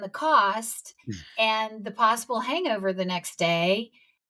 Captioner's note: chuckles